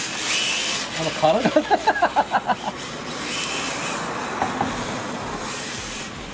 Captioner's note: laughs